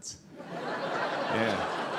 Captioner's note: audience laughing